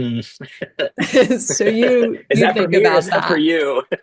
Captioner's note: laughter